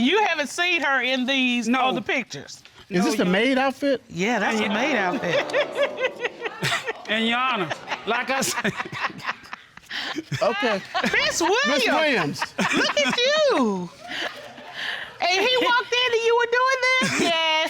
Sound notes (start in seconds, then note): 6.0 audience laughing; 7.7 laughing; 9.7 laughs